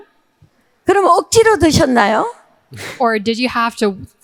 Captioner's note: speaking in foreign language